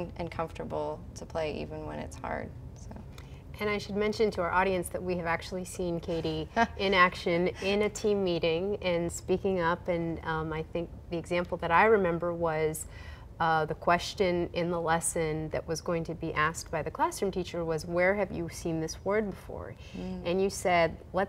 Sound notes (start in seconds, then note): 9.1 laughing